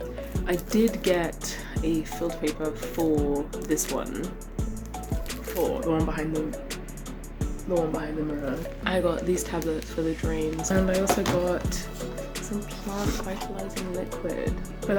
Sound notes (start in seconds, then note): 5.2 vent